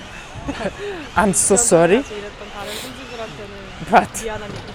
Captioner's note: interpreter sobbing next to her